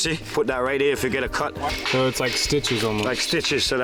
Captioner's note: people chatter